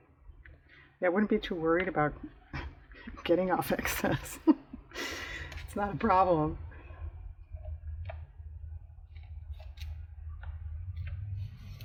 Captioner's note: laughs